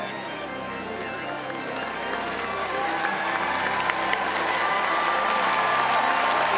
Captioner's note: audience applauding and cheering